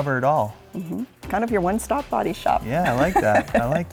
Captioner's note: laughs